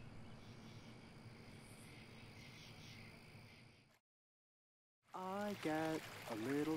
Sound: crickets chirping; seabirds cooing

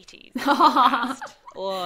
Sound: laughs

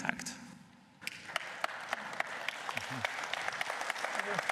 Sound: applause

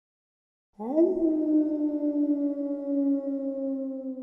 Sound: wolf howls

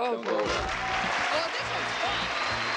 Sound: applauding

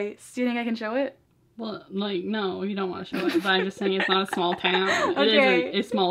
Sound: laughs

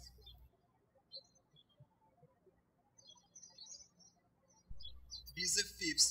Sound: birds chirping

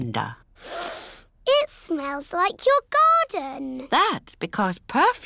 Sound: sniffs

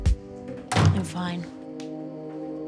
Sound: door closes

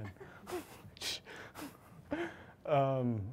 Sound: chuckles

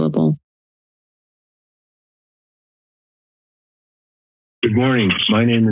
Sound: silence

